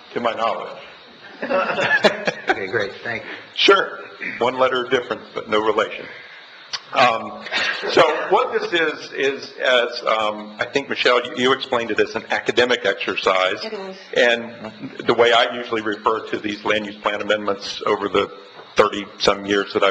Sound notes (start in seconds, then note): 1.2 laughs